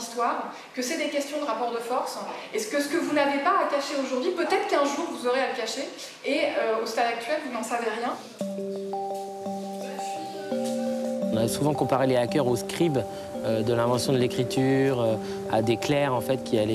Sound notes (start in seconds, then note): 8.3 gentle electronic music; 11.2 speaking in a foreign language